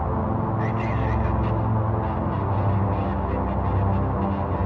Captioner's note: muffled radio chatter